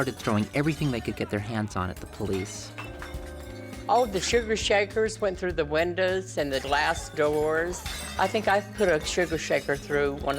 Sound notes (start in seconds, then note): 0.0 glass Shattering; 3.8 glass Breaking; 7.4 glass Breaking